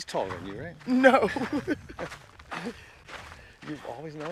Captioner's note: laughter